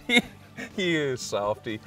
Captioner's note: laughing